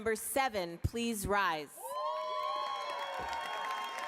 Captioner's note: applause